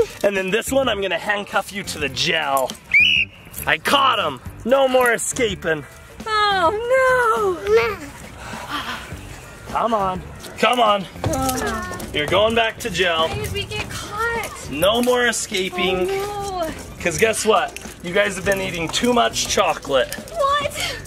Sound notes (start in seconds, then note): 2.8 whistles